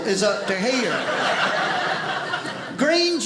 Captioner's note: audience laughing